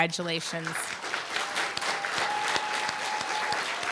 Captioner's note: applause, cheer